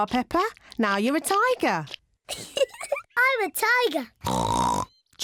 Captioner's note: giggles; oinks